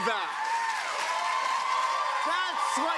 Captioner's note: cheers and applause